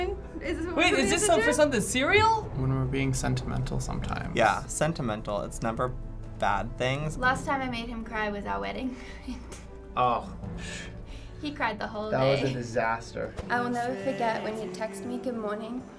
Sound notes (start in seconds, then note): 10.6 sighs